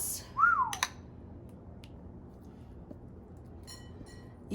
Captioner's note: whistles